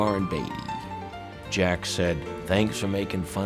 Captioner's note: normal voice